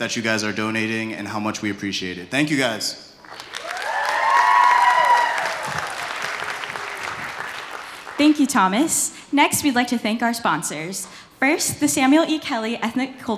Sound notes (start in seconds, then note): 3.2 applause